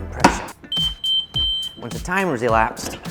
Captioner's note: beeping